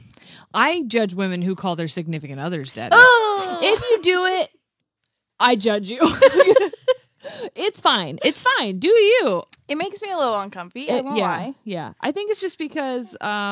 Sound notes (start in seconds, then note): 6.1 laughs